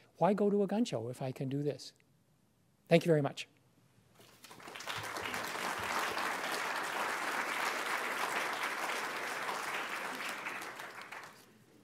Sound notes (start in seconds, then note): 4.2 applause